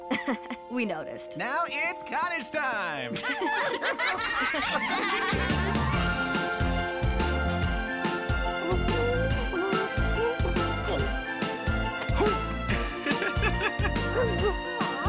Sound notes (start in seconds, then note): 0.2 laughing; 3.2 laughing; 6.7 upbeat music; 12.7 laughing